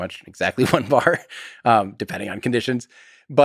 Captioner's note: Tim laughs